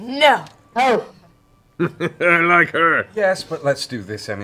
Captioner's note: chuckles